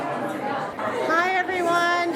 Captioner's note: background chatter